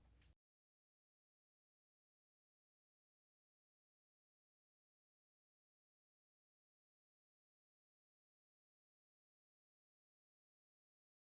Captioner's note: no Sound Present